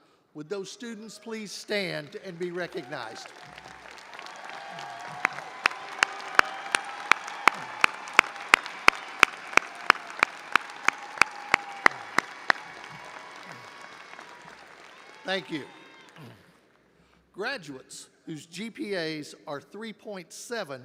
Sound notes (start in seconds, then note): 3.3 audience applauding and cheering; 5.6 clapping